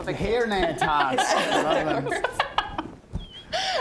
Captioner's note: laughing